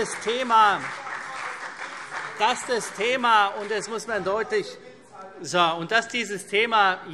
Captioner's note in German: Beifall CDU und Freie Demokraten